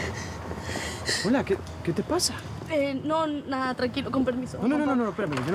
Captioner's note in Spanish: Sollozos